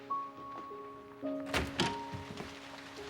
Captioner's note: door opens